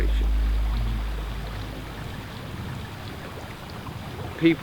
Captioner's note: water gurgling